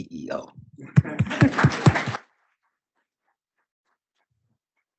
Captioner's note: audience applauding